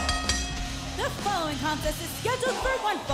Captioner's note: bell ringing